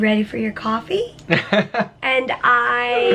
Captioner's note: chuckling